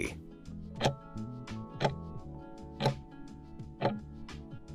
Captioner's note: timer ticking